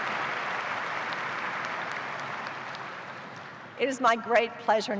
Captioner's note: applause